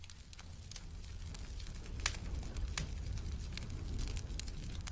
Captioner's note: flames crackling